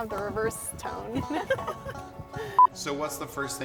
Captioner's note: laughter